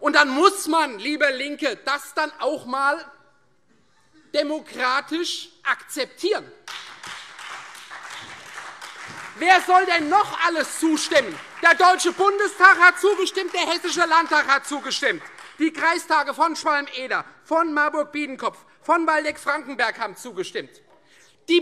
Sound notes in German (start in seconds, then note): 7.0 Beifall Freie Demokraten, vereinzelt CDU, SPD und AfD